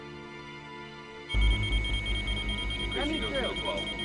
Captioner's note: machine beeping erratically